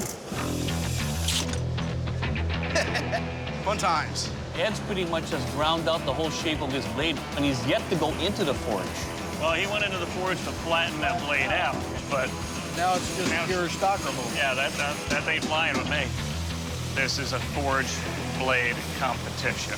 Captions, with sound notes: [dramatic music] - [laughs] Fun times. - Ed pretty much has ground out the whole shape of his blade, and he's yet to go into the Forge. - Well, he went into the Forge to flatten that blade out, but-- - Now it's just pure stock removal. - Yeah, that-- that ain't flying with me. This is a forged blade competition.